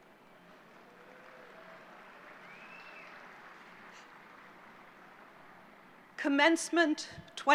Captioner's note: applause